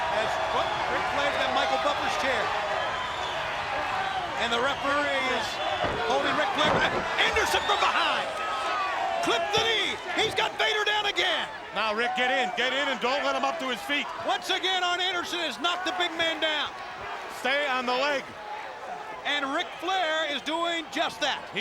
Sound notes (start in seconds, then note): 0.0 crowd clamoring; 7.2 body thudding; 9.7 crowd clamoring; 11.1 crowd clamoring